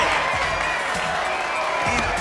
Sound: cheers and applause

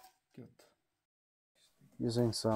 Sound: swedish sass

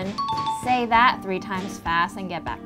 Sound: bell ringing

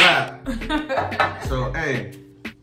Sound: laughing

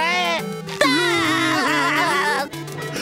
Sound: laughing

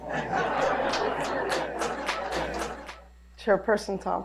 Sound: laughter

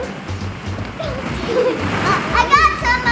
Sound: children giggling

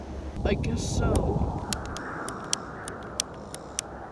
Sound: switch toggling

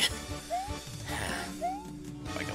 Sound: breathing

